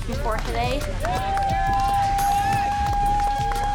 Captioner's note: all cheering